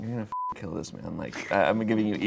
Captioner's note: beep